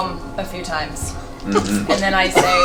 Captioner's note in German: Gelächter